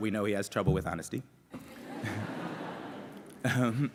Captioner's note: laughter